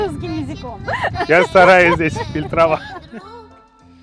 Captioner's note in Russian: смеётся